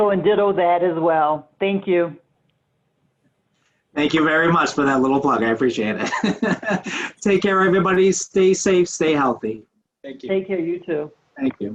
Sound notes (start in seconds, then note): 6.0 laughs